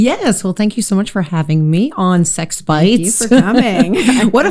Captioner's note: laugh